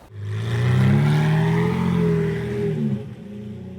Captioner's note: engine revving